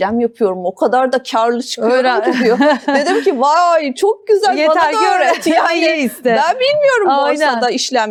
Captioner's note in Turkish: kahkaha